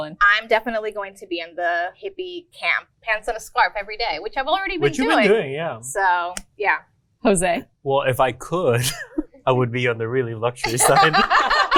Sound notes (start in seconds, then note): 8.7 laughs; 10.6 everyone laughs